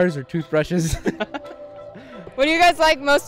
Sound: laughs

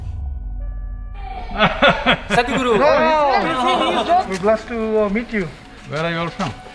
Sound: Sadhguru laughs

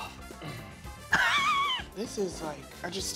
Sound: laughing

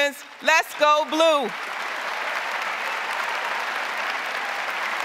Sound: crowd applauding

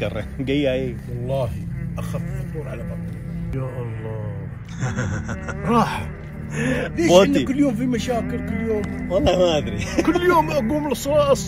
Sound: speaking Arabic

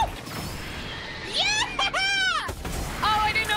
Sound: cheering

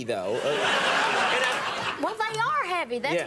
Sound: audience laughing

